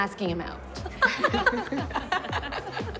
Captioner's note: laughing